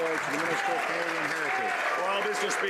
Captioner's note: some Applause